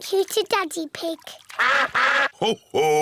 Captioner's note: all quack